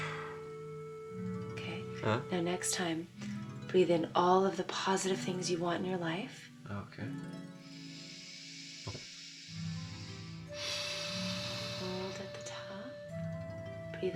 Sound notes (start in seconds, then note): 7.6 inhaling